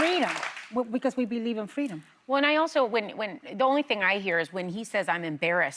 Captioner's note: applause